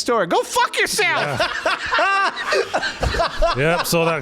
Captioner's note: outrageous laughter